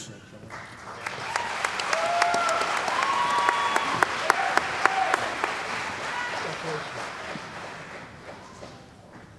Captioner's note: cheering & Applause